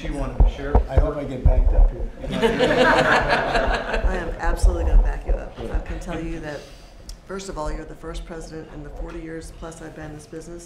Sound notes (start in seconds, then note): 5.2 laughter